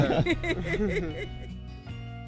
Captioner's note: laughing